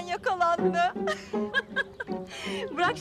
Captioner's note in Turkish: Gülme sesi